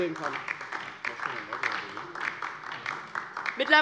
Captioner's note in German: Beifall DIE LINKE